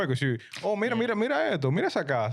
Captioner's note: speaking In Foreign Language